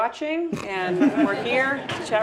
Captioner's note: laugh